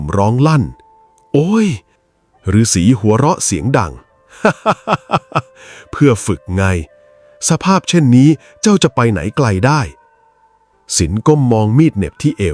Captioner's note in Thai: เสียงหัวเราะ